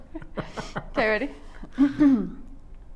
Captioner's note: laughs